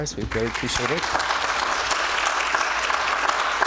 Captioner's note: audience applause